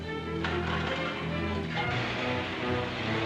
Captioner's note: dramatic music; car engine starts; dramatic music